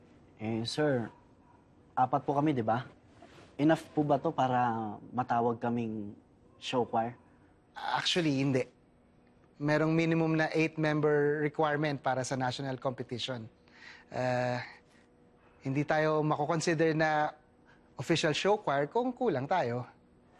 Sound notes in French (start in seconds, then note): none